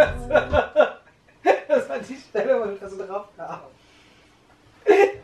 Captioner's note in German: lacht